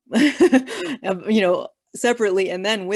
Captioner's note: laughing